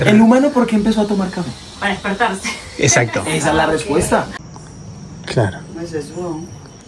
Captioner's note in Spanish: risas